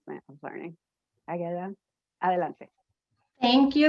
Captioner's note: spanish